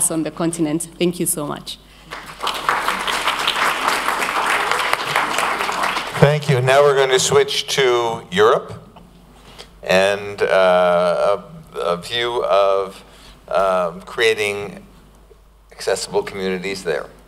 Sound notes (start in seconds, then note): 2.0 applause